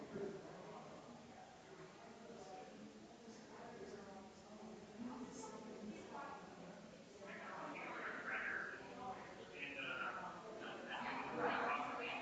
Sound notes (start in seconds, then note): 4.3 people chattering distantly continues